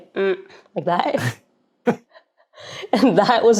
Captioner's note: chuckles